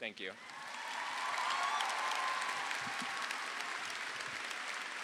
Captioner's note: audience applauding